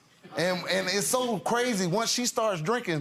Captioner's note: audience giggles